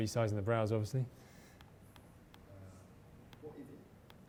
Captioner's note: voiceover